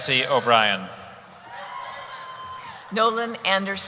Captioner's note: cheering